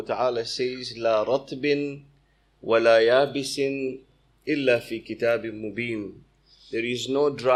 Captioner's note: arabic - 6:59